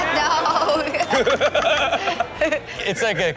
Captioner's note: all laugh